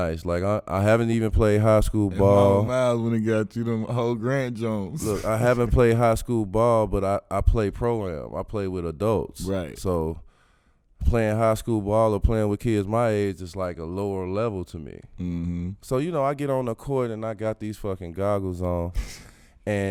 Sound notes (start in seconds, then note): 4.9 laughing